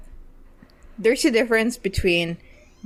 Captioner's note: none